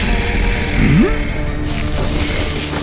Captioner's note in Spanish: Dominic gruñe sorprendido